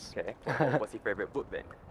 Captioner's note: laughs